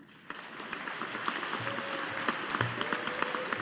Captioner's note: audience applauding